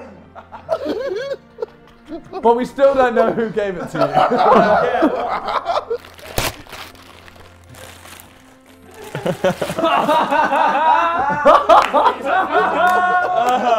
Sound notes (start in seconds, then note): 0.0 JJ laughing; 4.5 JJ laughing; 8.9 Sidemen laughing